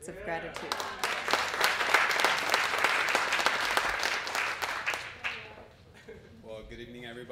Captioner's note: applause